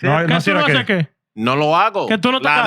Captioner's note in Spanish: Hablando en idioma extranjero